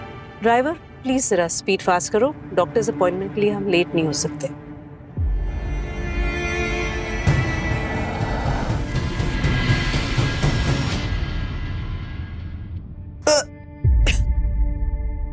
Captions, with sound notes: Driver, please drive faster. We can't be late for the doctor's appointment. [engine revving] [gags]